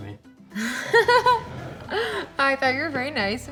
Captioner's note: laughing